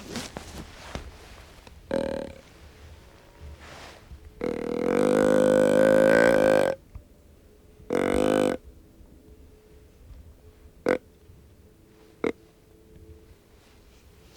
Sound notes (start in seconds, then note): 1.3 blowing grunt call